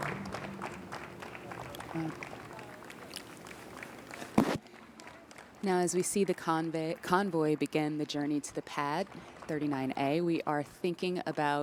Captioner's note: applause